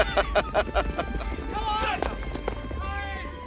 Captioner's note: laughs